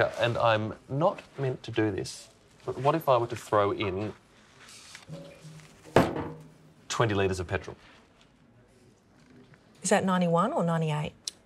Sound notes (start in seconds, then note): 5.1 clunk